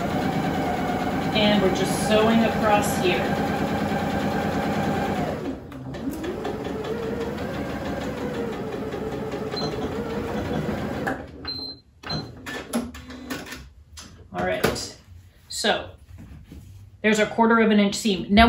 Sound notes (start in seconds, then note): 3.4 sewing machine noises